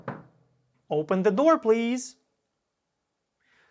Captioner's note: knock on the door